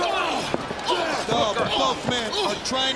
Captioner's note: wrestlers grunting